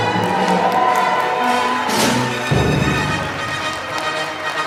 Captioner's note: applause